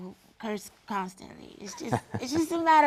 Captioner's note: laugh